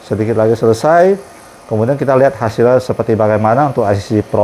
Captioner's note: printer machine noise